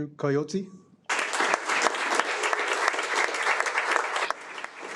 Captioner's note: audience applauding